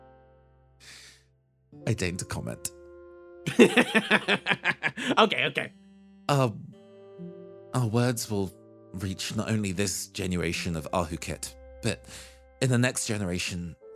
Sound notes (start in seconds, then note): 3.5 laugh